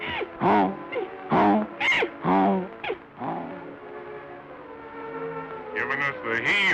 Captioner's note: horse neighing